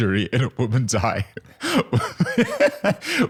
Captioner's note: laughs